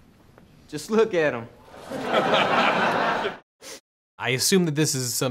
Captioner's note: crowd laughing